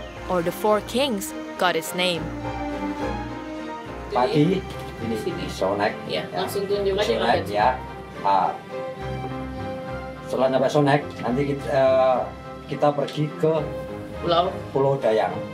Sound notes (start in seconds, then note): 2.4 upbeat music; 4.1 speaking Indonesian